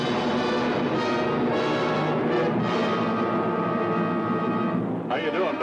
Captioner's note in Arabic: موسيقى درامية; هدير محركات الطائرة